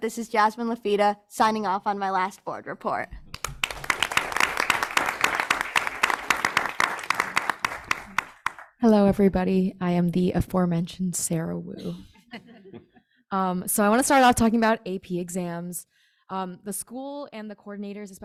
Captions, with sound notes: this is Jasmine signing off on my last board report. (people clapping) >>Hello everybody, I am the aforementioned Sarah Wu. So I wanna start off talking about AP exams. The school and the coordinators,